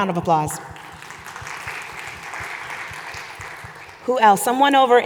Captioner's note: audience applauding